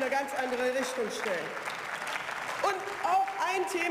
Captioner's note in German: Beifall